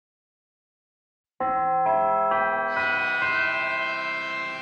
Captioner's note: bell chimes